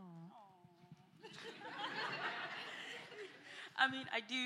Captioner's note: laughter